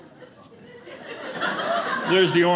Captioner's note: audience laughing